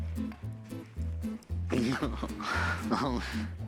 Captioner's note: laughs